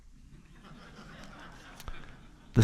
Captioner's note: laughter